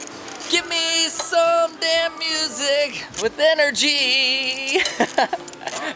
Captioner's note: laughs